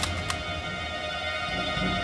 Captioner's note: gun cocks